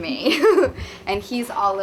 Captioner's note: Drew giggles